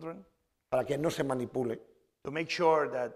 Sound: speaking spanish

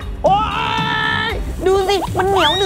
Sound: scream

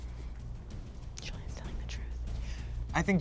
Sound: whispers

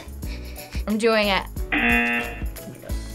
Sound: buzzer

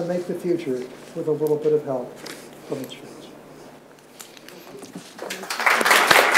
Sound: audience applauds

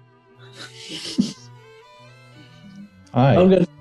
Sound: sniggering

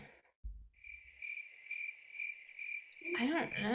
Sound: crickets chirping

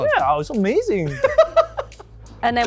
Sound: laughter

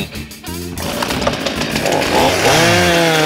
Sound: chainsaw revs

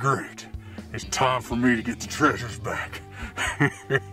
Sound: laughs

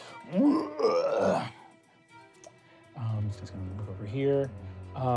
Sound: groaning

